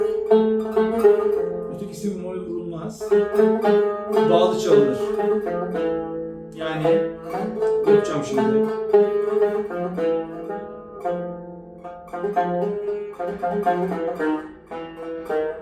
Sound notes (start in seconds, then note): 5.5 slurred